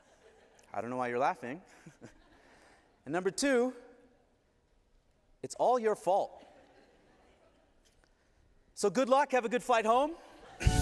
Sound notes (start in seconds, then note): 0.0 laughter